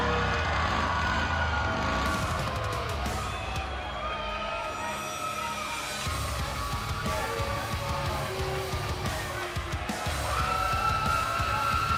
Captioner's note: crowd cheering